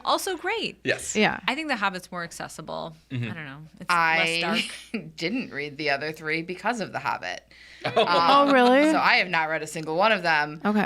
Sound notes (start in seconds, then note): 5.0 chuckles; 7.8 laughs